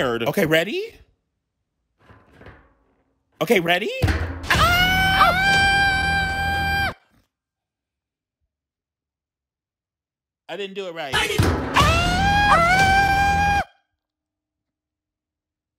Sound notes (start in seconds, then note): 4.0 device clanking; 4.4 squealing; 11.2 device clanking; 11.7 squealing